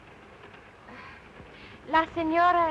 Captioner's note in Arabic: تتنهد ايريس